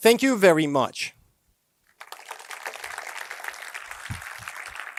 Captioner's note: applause